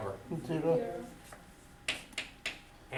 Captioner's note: voiceover